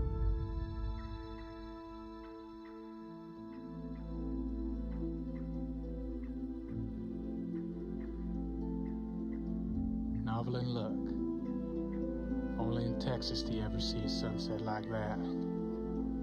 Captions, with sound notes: (soft music) (birds chirping) Novalyne, look. Only in Texas do you ever see a sunset like that.